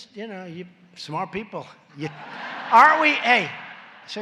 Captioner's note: laughter